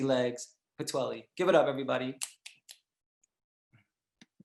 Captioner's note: snaps